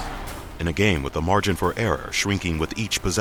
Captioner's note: voiceover